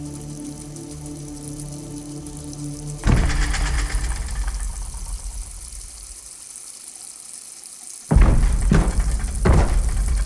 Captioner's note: heavy stomping/banging